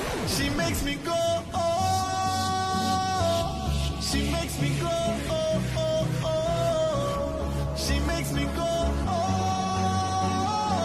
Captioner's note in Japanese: 効果音